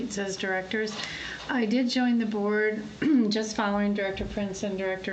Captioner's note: clears throat